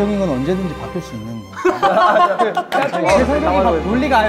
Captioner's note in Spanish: Jajajajaja